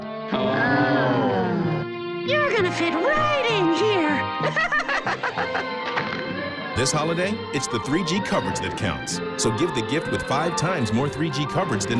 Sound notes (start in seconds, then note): 4.4 all laughing